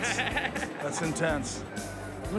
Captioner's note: laughs